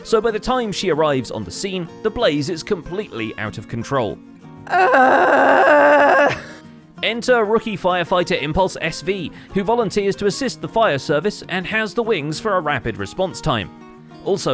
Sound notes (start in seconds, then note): 4.6 defeated groaning